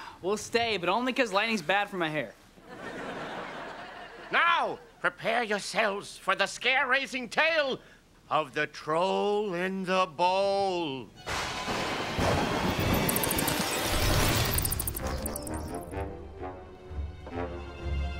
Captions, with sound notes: but only cause lightning's bad for my hair. Now prepare yourselves for the scare raising tale of The Troll in the Bowl. [thundering]